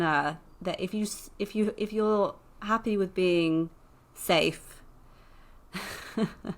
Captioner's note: laughs